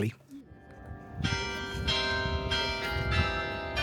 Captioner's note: bells ringing midday